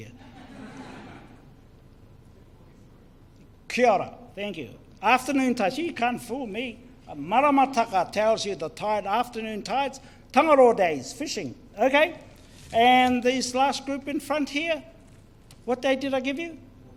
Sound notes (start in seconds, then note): 0.1 audience laughter; 6.8 foreign Language